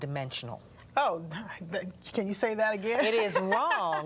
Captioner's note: laughter